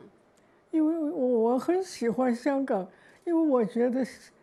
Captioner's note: Mandarin